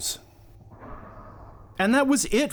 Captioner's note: Darth Vader breathing